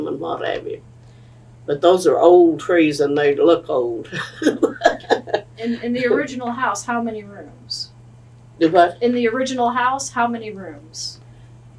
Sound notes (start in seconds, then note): 4.1 laughs